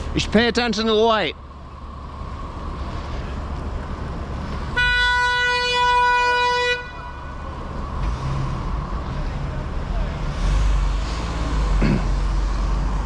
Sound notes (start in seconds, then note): 4.7 honnnnk